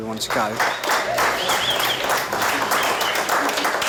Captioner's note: crew whistling & applauding